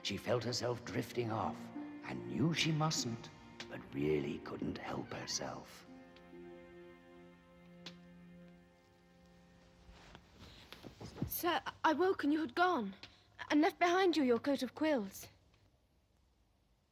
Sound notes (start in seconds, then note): 6.1 door opens; 7.6 footstep